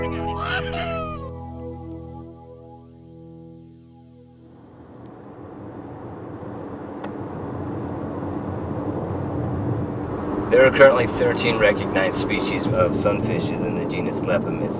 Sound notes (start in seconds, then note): 4.4 driving noises